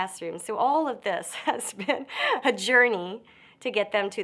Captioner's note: chuckles